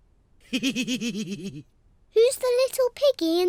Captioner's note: laughs